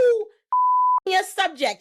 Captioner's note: beep